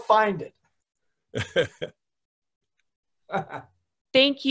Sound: laughing

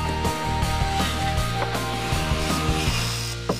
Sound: drilling; knock at the door

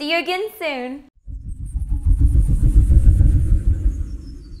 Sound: fan whirring

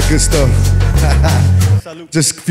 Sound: laughing

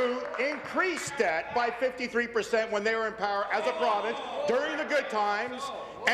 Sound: applause

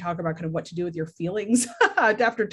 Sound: chuckles

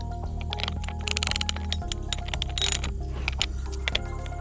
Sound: wrench clicks

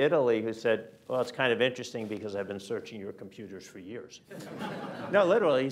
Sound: laughter

